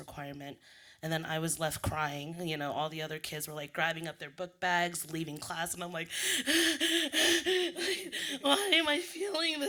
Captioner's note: sobbing noises